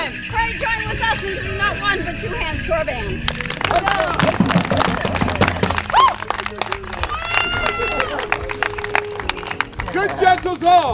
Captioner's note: applause